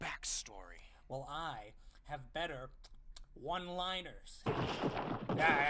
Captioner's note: licks lips